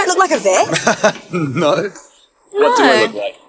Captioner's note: chuckles